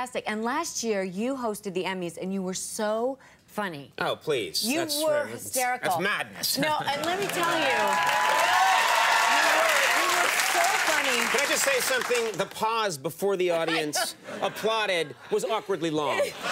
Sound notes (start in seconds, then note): 7.0 audience cheer; 16.3 audience laugh